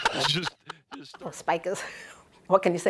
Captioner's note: laughing